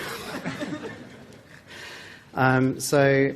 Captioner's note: laughter